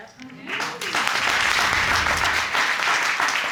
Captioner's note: audience applauding